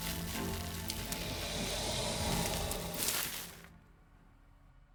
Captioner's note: creature growling